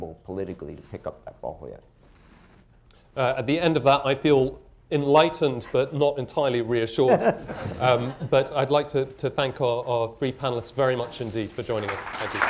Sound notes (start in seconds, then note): 7.0 laughter; 11.6 applause